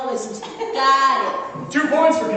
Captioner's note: laughter